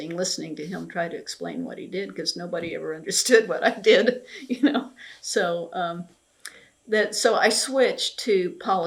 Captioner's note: laughs